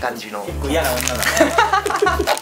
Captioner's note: laughs